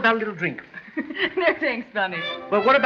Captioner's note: laugh